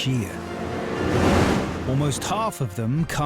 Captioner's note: boat engine revving; waves crashing